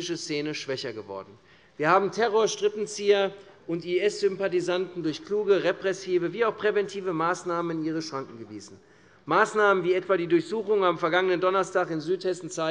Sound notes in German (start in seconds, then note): none